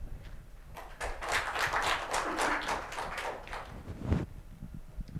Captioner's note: applause